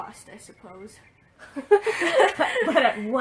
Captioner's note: laughs